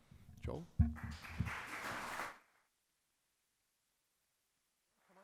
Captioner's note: audience applauds